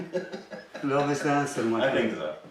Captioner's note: chuckling